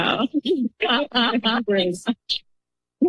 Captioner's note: laughter